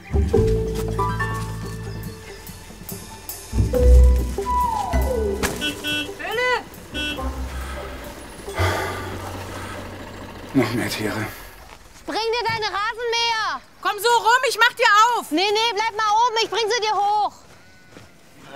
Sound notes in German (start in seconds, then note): 5.0 Hupen; 8.5 Er seufzt